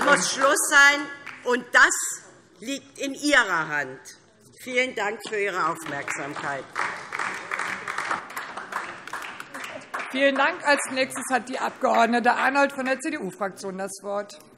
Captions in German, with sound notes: Damit muss Schluss sein, und das liegt in Ihrer Hand. - Vielen Dank für Ihre Aufmerksamkeit. [Beifall DIE LINKE] Vielen Dank. - Als Nächste hat Frau Abg. Arnoldt von der CDU-Fraktion das Wort.